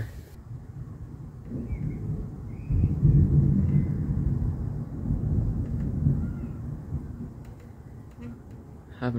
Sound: deep rumbling thunder

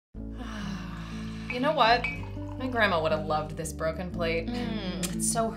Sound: happy sigh

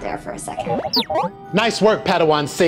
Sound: beeping

